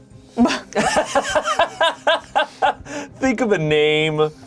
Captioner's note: chuckles; laughing